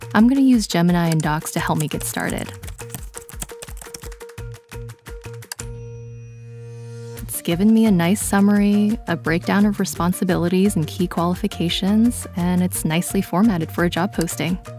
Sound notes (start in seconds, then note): 3.4 gentle music; 3.4 keyboard clicking